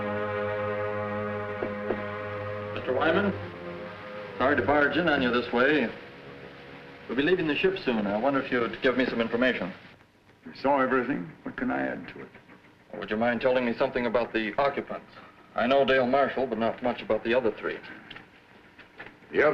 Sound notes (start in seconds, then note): 1.6 door knocks